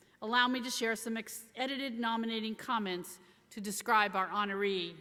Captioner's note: none